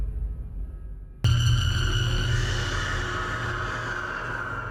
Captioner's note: shriek reverberating